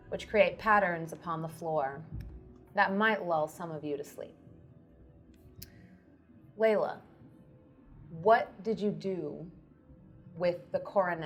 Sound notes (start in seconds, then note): none